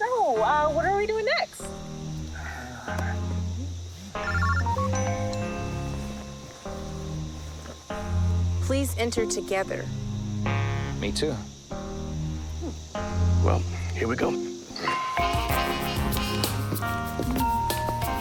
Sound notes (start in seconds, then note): 4.2 cellphones ringing; 14.9 upbeat music